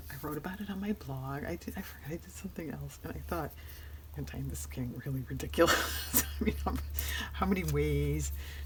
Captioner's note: laughs